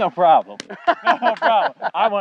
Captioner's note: laughing